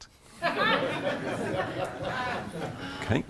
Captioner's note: laughter